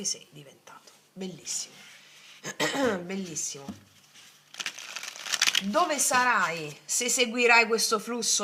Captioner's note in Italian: schiarire la voce